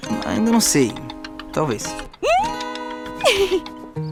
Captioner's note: Dininha laughs